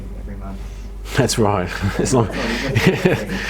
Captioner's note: laughs